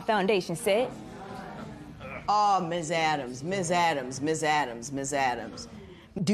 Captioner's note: spectators murmur